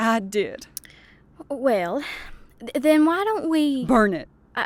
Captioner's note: hesitantly